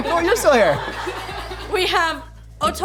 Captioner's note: laughing